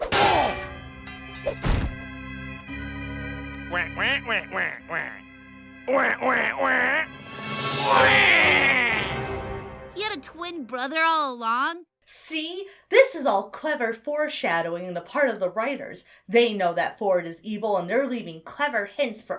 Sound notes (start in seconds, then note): 0.0 bedpan clanks; 0.2 dramatic music; 3.7 duck quacking; 7.8 duck quacks